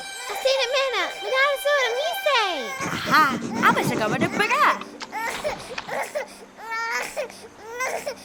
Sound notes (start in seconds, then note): 0.0 Miriam speaks gibberish; 3.4 princess speaks gibberish